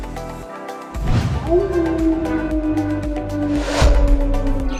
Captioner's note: wolf Howling